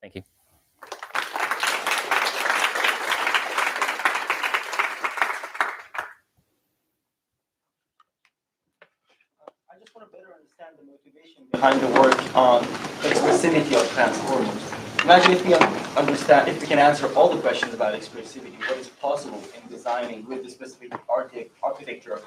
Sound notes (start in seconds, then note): 0.8 applause